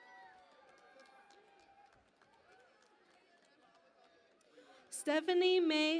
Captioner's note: cheering and Applause